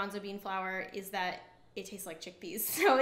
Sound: chuckles

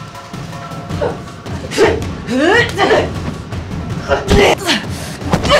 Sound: thumping; groaning

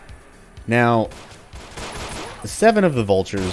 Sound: gunfight ensues

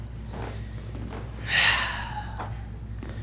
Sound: sigh of relief

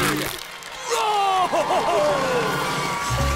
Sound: cheering

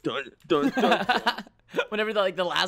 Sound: laughs

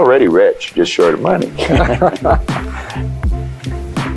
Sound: laughing

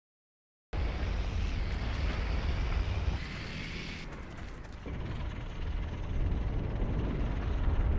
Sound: jeep Engine

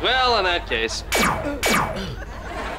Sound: zapping

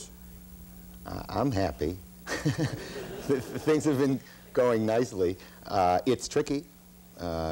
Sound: laughs

